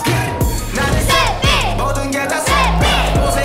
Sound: everyone shouting out "New Thing"

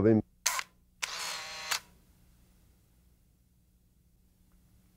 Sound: camera shutter clicking

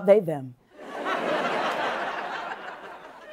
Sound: laughter

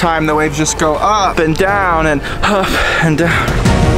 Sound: groans; rousing music

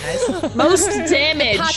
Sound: laugh

